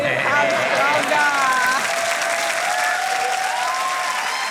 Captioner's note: cheering and applause